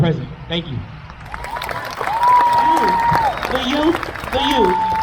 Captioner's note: crowd cheers